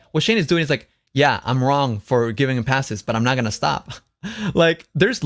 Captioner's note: laughs